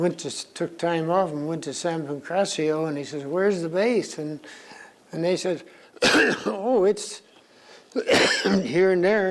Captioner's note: coughs